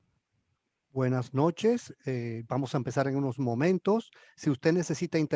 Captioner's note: speaking in foreign language